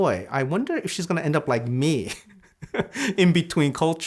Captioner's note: chuckles